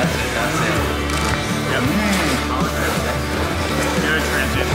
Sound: camera clicking

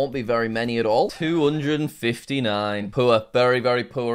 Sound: record scratch

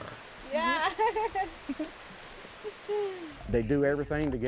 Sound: laughs

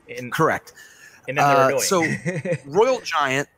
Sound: laughs

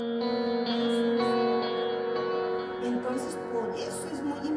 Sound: speaks in Spanish

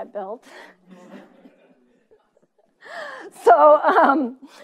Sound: laughing

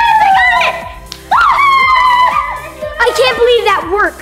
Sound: kids cheering

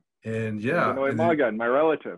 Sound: speaks foreign language

